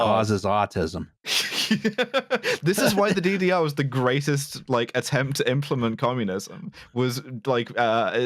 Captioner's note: laughs